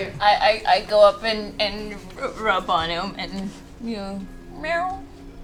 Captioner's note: meows